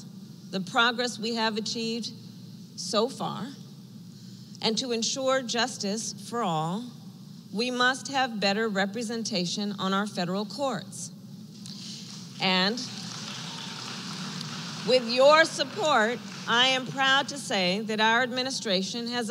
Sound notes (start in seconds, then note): 12.0 applause